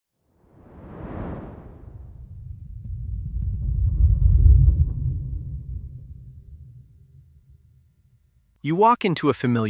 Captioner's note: air whooshing